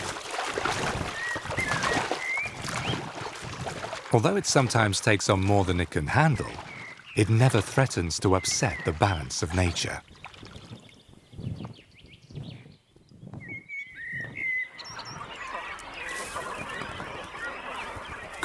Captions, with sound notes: Although it sometimes takes on more than it can handle, it never threatens to upset the balance of nature. (birds singing)